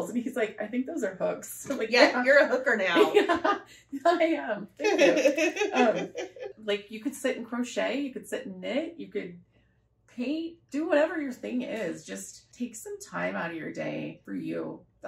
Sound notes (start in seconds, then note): 4.8 laughter